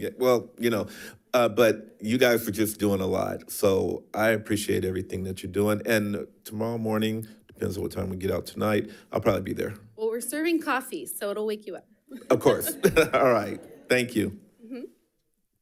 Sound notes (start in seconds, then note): 12.1 laughs